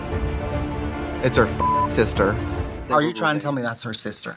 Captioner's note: beeping